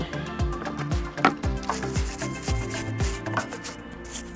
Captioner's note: scrubbing sound